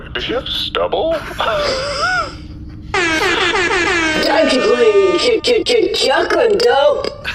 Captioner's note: horn honks